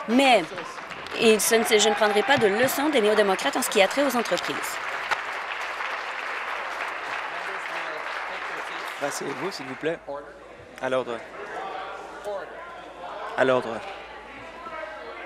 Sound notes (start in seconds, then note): 0.2 applause